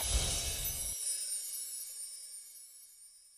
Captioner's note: chiming